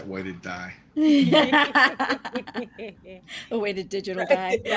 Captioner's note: group laughing